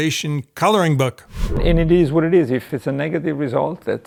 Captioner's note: transition sound effect